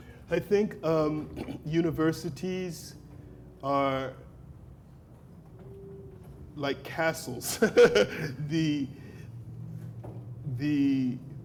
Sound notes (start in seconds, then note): 7.4 laughs